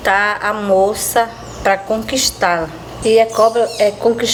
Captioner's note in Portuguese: pássaros cantando